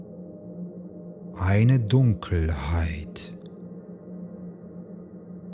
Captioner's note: german